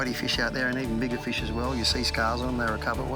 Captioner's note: upbeat instrumental music; water splashing